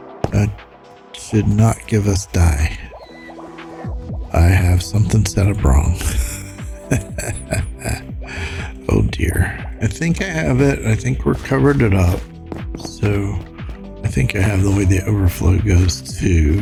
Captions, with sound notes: That should not give us die. I have something set up wrong. [laughs] Oh, dear. I think I have it. I think we're covered it up. So I think I have the way the overflow goes too.